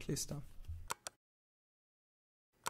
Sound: click

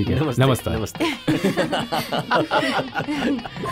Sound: laughs

